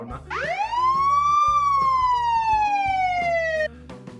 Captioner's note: police sirens